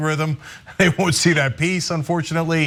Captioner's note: laugh